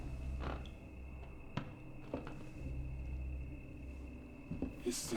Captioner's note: floorboards creaking